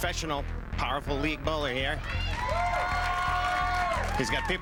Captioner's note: audience cheers